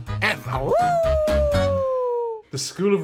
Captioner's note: monster howls